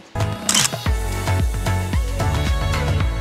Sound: camera clicks; upbeat music plays

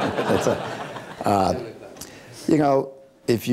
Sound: laughing

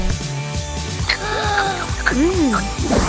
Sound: gasping

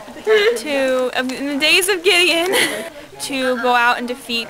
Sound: laughs

